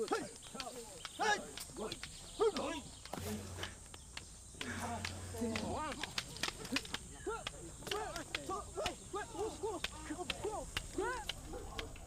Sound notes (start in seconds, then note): 1.2 men grunting; 4.5 sticks smacking